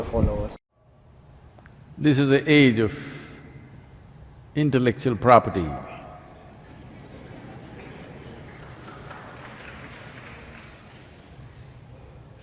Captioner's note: laughter/Applause